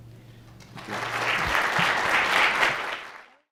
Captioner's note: audience applauding